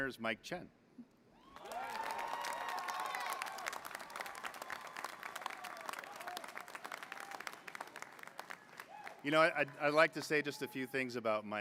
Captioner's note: applause